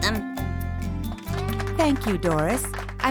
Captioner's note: class applauding